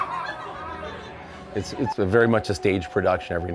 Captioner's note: screams; laughs